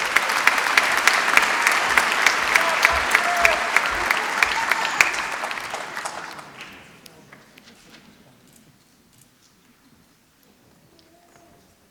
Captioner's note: applause